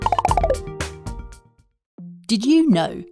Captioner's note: balloons popping